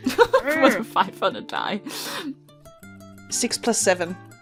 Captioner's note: laughing